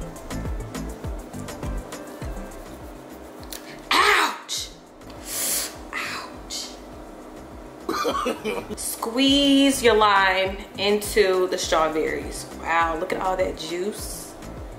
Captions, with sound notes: Ouch! (inhales) Ouch. (man laughs) Squeeze your lime into the strawberries. Wow, look at all that juice.